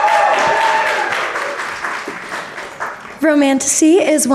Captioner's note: audience cheering and applauding